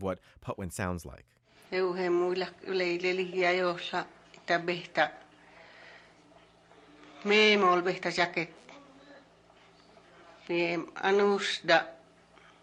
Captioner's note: speaking Patwin